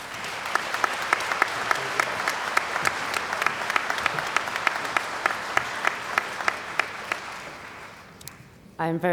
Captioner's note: applause